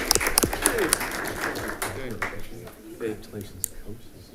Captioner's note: crowd chatting